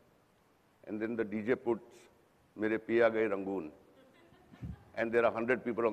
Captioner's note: non-english speech